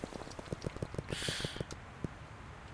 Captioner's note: inhaling